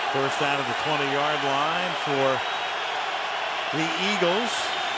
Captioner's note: crowd cheering